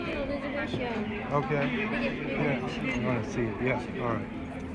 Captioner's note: chatter